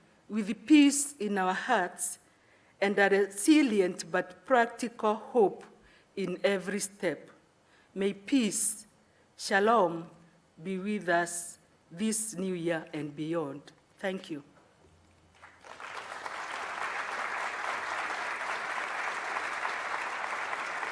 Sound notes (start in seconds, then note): 15.3 audience clapping